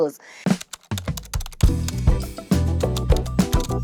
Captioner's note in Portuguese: Typing